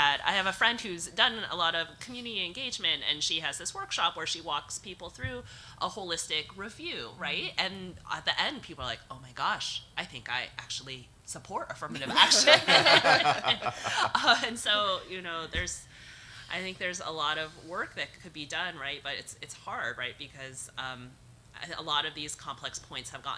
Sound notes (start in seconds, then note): 12.0 audience laughs